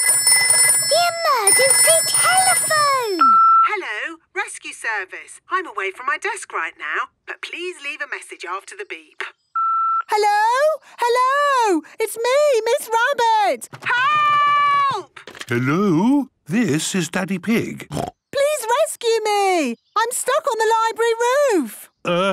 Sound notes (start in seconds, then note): 0.0 phone ringing; 3.4 answering machine; 9.6 beep